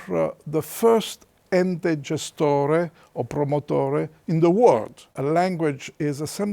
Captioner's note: in Italian